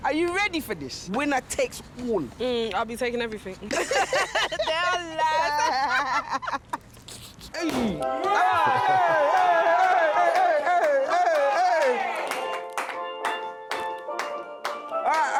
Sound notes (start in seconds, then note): 3.7 laughing; 8.1 popping and cheering